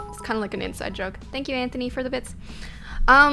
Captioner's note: notification tingling